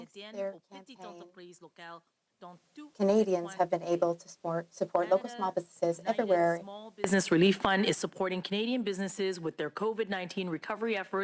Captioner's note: speaking French